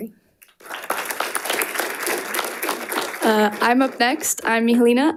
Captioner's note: audience applauding